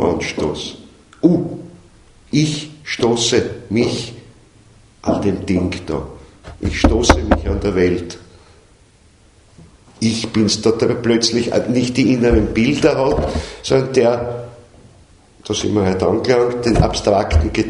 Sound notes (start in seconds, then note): 3.8 knocks on something!